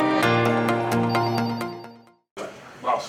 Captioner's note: telephone ringing